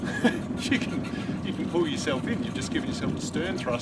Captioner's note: laughs